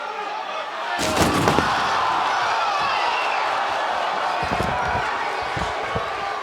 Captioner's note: crowd exclaims; table smashes